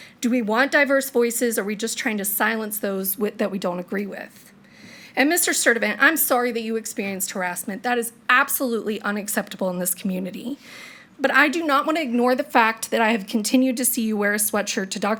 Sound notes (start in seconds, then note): none